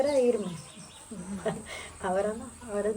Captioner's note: laughs